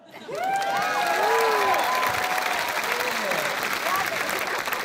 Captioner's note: cheering and applause